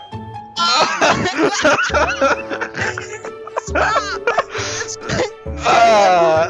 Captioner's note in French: rires